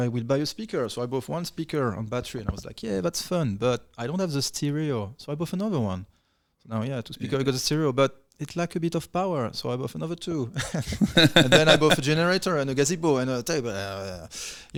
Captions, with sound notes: I will buy you a speaker. So I bought one speaker on battery and I was like, yeah, that's fun, but I don't have the stereo. So I bought another one. Now, yeah, because I got a stereo, but it's like a bit of power. So I bought another two. (laughing) And then I bought a generator and a gazebo and a table.